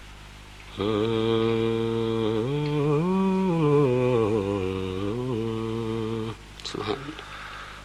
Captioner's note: hums a tune